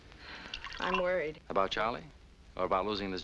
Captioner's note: sighs